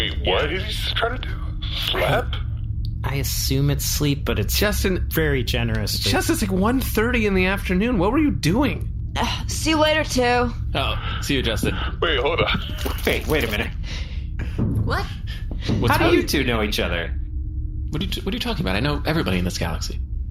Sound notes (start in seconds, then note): 10.8 laughing